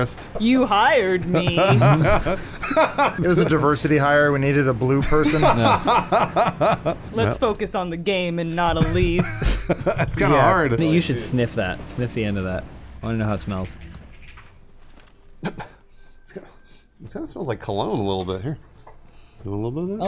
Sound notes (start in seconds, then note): 1.3 laughter; 5.0 laughter; 8.7 giggles